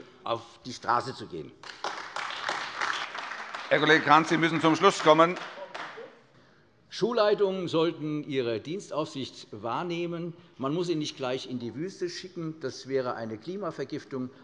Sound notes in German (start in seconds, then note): 1.6 Beifall AfD